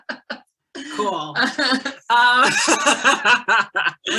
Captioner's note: laughing